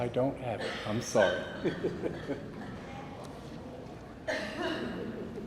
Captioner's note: people laugh; laughs; person chuckles